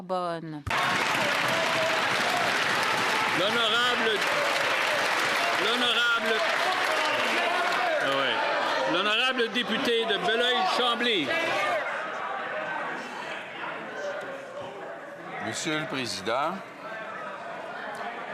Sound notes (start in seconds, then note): 3.3 applause